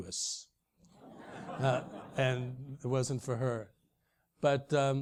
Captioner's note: laugh